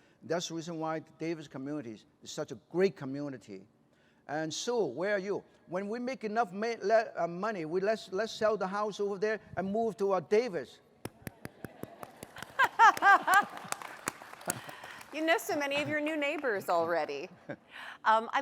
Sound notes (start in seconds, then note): 11.4 laughter; 11.7 applause